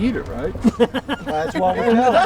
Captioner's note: laughter